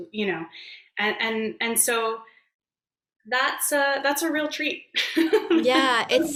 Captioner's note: laughs